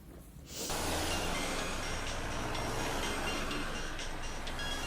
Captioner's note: ringtone playing